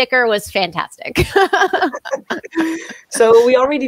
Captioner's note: both laughing